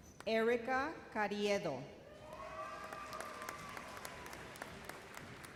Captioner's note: audience cheers